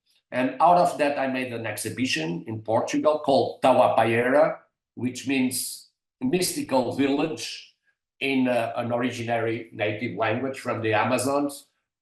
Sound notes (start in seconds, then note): 3.6 non-english